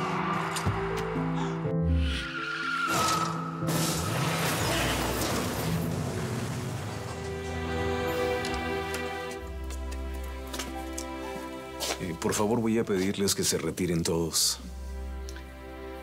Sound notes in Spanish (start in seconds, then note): 0.1 Frenazo; 0.2 Chirrido de neumáticos; 3.6 Estruendo al chocar y rodar